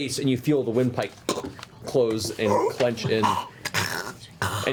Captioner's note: choke; choking sounds